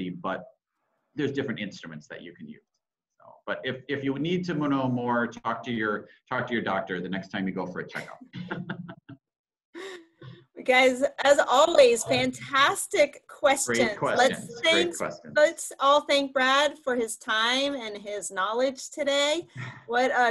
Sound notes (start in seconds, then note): 7.9 laughs